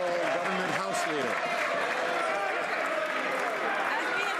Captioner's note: some Applause